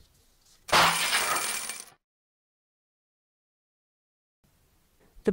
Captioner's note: crashing sound